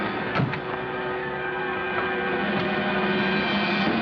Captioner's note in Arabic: صوت أبواب السيارة